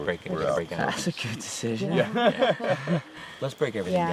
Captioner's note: laughter